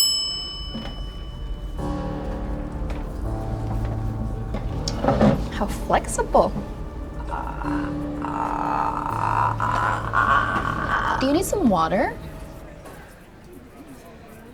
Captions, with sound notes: (bell dings) (dramatic music) How flexible. (wheezing) Do you need some water?